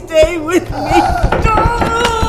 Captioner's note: door knocking